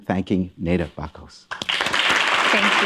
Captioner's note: applause